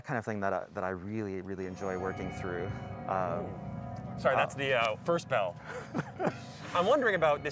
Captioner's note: bell chime plays; laughter